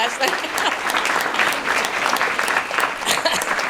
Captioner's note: applause